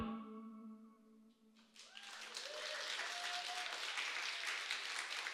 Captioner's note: applause, cheering